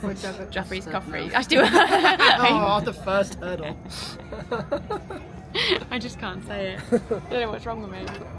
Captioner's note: laughter